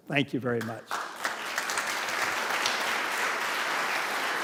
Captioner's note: applause